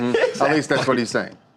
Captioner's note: laughter